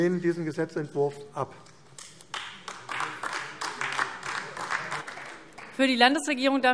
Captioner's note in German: Beifall AfD